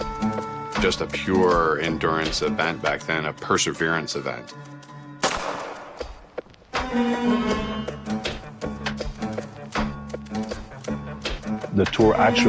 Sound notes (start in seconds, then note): 5.2 gunshot; 7.3 upbeat music